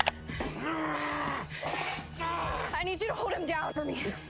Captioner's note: grunting